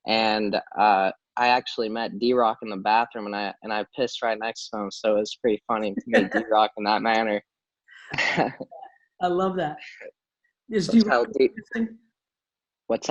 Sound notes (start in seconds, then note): 8.1 laughs